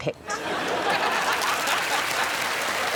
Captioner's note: all laughing; applause